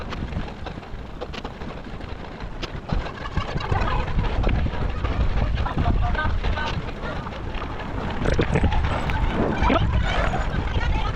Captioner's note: wind blowing